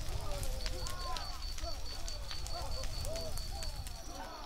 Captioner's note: fire and knight noises